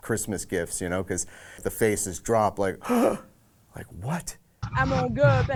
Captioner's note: gasp